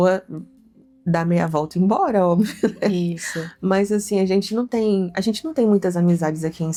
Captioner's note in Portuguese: risadas